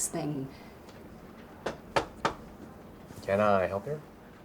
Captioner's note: knocking